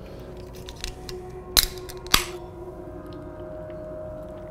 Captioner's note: can opening